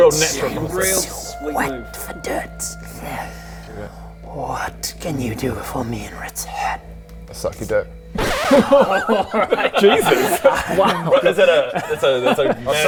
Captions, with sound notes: - I'm too wet for dirt - real natural, real sweet move what can do you do for me in return? Suck your dick *record scratch* *stunned laughs* Jesus! Is it a, it's a